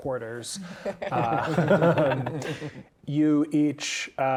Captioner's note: players laughing